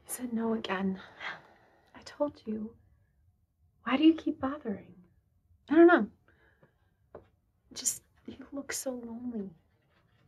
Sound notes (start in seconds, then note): 1.5 scoffs